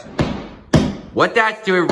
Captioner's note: hammer Banging